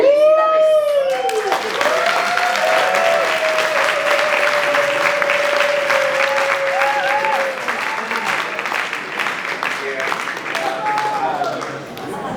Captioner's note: people clapping hands